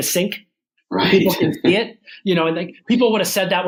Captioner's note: laughs